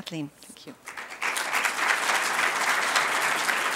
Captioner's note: applause